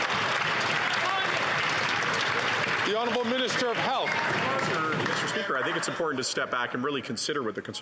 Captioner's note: some Applause